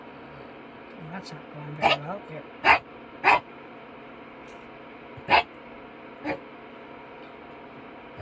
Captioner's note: bark